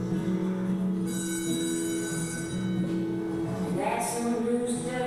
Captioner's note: bell ringing